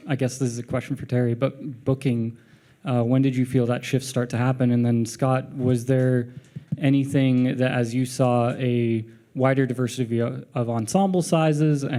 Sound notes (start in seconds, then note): none